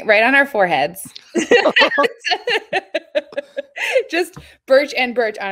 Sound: both laugh

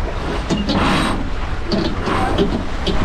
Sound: winch noise

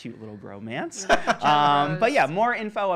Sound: laughing

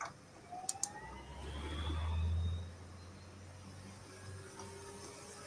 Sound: car engine roaring

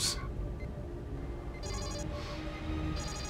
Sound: alarm

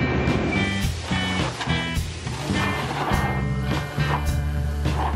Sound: support scraping ground

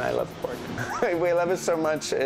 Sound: chuckles

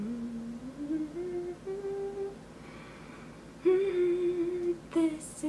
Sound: humming

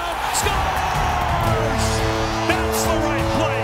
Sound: audience cheering and clapping

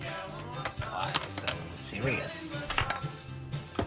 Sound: imitating the Joker

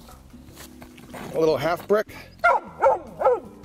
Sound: bricks scrape; dog barks

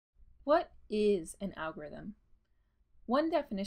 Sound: voiceover

